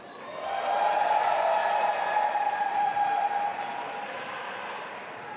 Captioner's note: audience applauding and cheering